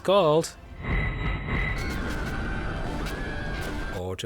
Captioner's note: fzz zz zzzt; panicked screaming